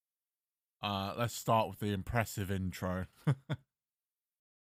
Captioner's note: chuckle